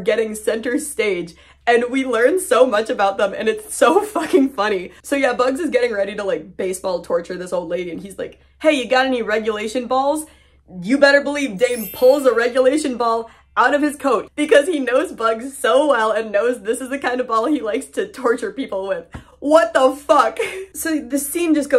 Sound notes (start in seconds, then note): 11.6 bell sound effect